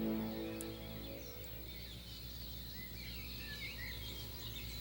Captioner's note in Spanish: pássaros cantando